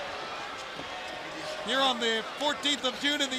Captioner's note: crowd chatter